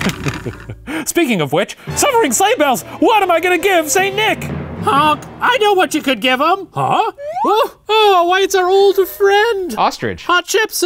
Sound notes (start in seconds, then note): 1.8 dramatic music; 7.6 slide whistle